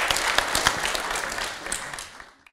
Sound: applause

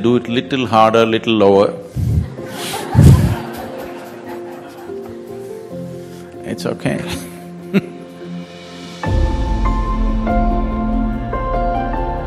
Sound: laughter

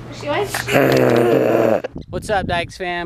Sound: growls

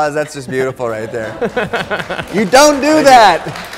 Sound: audience clapping

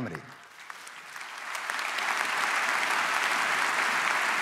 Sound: audience applauds

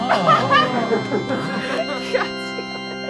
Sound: laughing

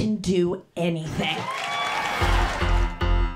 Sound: applause

